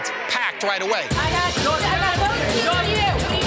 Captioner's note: chatter